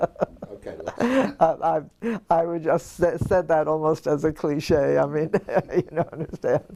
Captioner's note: laugh; laugh